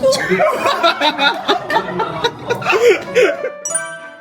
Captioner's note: laughter